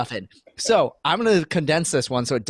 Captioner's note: laughing